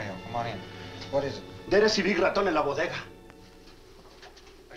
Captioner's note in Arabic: ماريو يتحدث الإسبانية